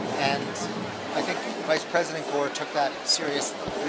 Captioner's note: none